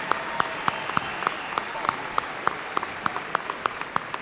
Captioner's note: applause